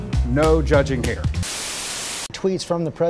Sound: Static

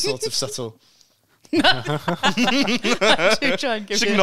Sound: woman laughs

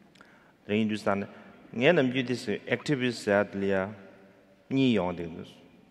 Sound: speaking in foreign language

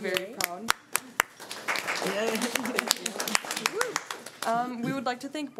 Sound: audience applauding

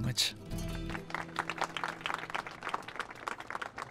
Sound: applauses

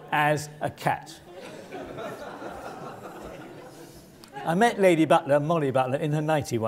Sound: laugh

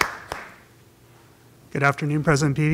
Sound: applause

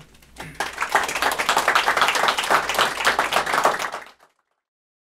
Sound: applause

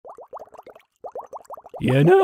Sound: boiling water

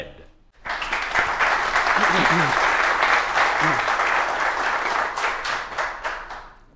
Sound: applause

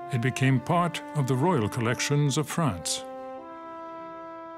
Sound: speaks French

